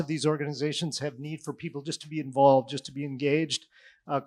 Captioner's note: none